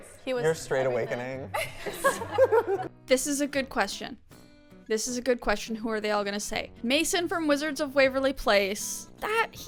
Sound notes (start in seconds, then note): 1.4 laughter